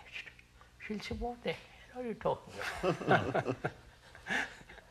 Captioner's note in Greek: γέλια